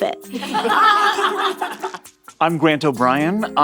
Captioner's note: all laughing